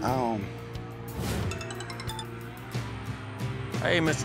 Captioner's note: cell phone rings